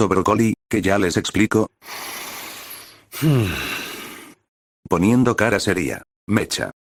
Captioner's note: breath_01